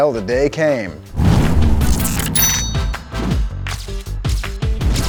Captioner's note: engine revs